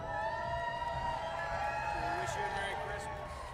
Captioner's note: audience applauding